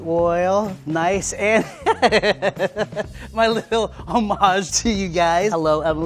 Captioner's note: laughs